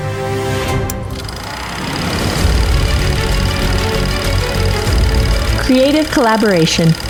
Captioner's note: tense dramatic music; film reel catling